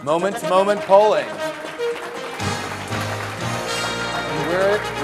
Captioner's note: audience applause